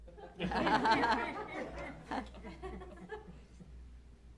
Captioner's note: laughter